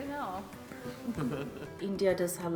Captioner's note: chuckling